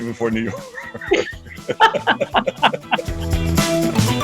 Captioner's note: laughing; upbeat music